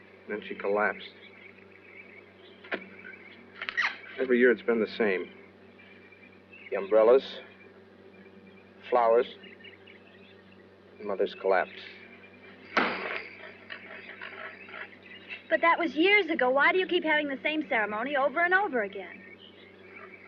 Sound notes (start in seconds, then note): 12.7 axe bangs on the tree